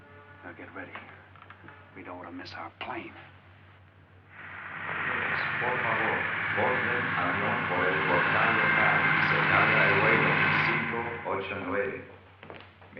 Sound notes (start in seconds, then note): 4.8 man speaking Spanish on PA